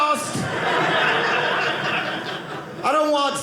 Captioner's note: audience laughing